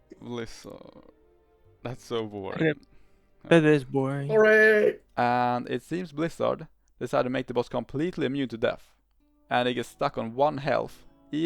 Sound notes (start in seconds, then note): 4.3 hurray!!!